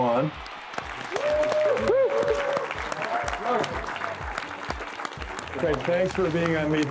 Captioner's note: applause